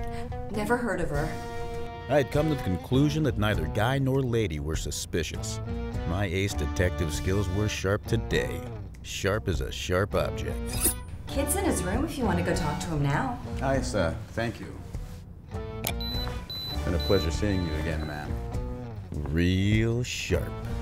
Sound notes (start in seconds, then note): 15.8 device beeps